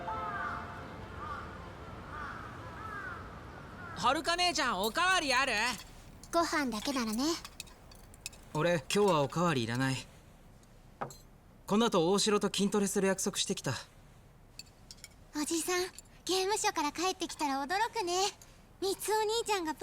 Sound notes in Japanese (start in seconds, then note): 0.8 叫び声